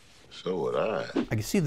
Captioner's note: graphics whooshing